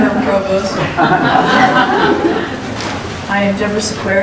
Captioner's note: laughter